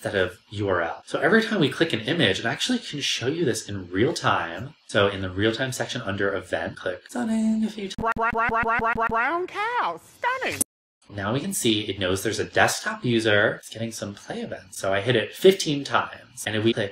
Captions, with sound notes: of URL so every time we click an image actually show you this in real time so in the real time section under event. click stunning *audio clip plays in background* we can see it knows there's a desktop user it's getting some play event so I hit it 15 times and we play